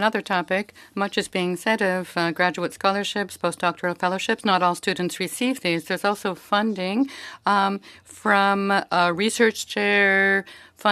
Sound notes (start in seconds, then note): 2.6 speaking French